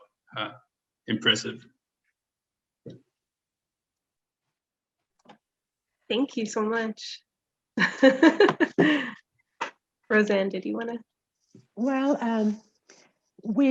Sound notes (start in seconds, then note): 7.9 laughing